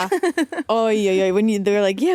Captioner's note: Vic laughing